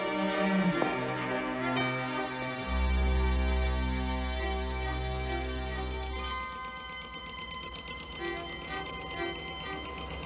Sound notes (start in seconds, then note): 6.4 engine chugging